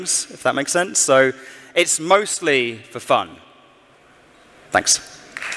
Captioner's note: cheering and Applause